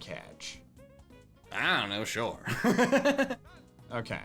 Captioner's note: laughs